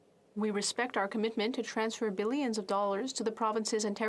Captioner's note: speaking French